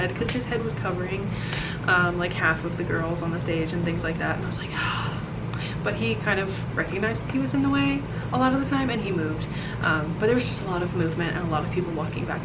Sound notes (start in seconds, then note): 5.2 sigh